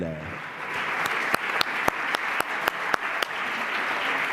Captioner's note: applause